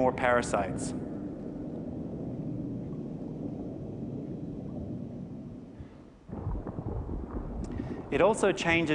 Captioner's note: underwater sounds